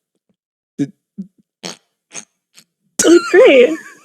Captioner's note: holding in laughter